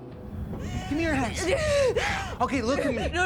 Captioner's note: sobbing